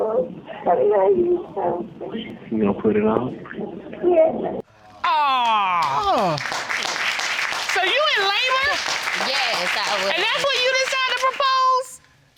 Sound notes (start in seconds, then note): 5.2 spectators applaud